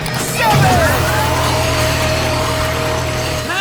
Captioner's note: whirring; grunting